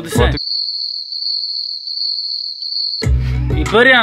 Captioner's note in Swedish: Crickets